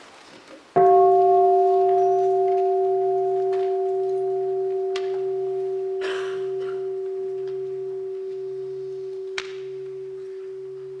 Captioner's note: three sounds of the bell